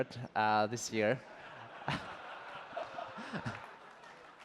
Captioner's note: laughter; applause